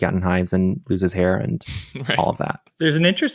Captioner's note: chuckles